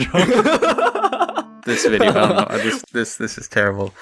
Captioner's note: laughs